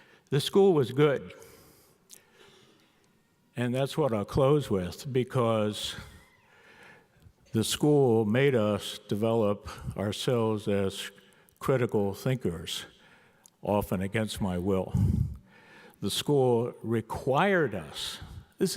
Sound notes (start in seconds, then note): none